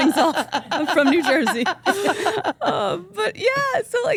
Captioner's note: group laughs